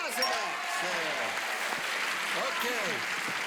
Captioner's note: cheers and applause